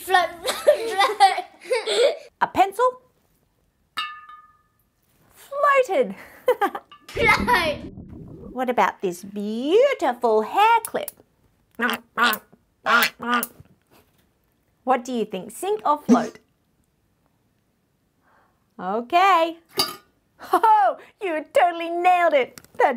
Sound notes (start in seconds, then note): 12.9 ducks quack